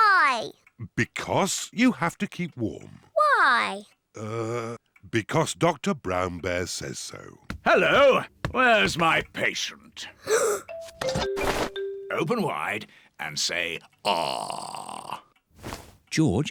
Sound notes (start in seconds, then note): 10.1 gasps